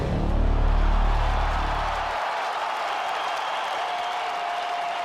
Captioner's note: crowd cheering